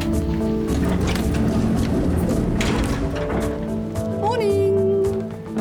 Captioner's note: door sliding open